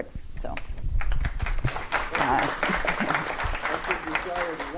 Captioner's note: applause